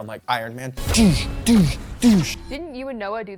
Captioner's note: imitates shooting lasers